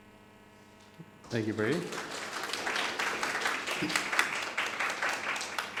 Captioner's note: audience applauding